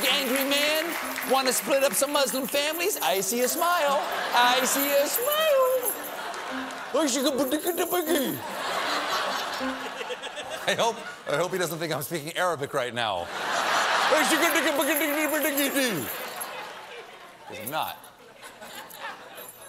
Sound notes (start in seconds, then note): 0.0 cheers and applause; 0.0 piano riff; 8.1 laughter